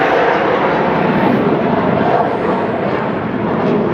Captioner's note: wind blowing